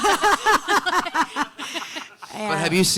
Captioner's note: panelists laughing